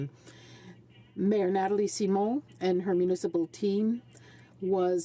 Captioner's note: speaking French